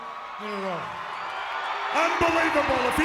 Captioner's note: audience applauds and cheers